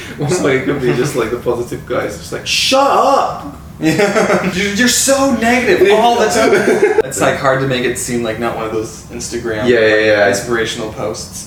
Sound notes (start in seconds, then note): 3.8 laughs